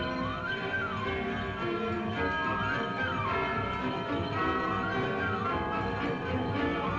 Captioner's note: church bells ringing; upbeat music